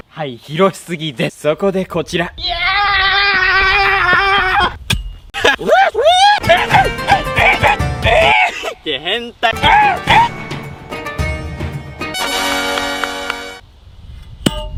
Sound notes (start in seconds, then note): 6.4 weirdo screaming